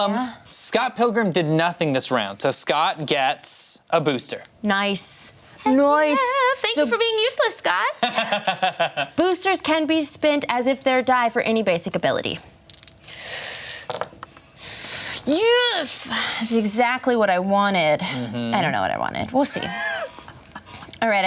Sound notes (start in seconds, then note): 8.0 laughing